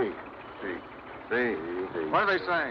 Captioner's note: speaking spanish